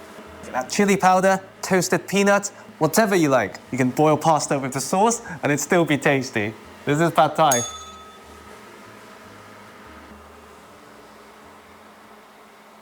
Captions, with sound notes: Add chilli powder, toasted peanuts, whatever you like, you can boil pasta with the sauce and it'd still be tasty. This is Pad Thai. [bell rings]